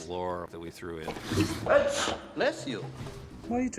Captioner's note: sneezes